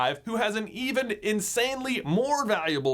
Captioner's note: none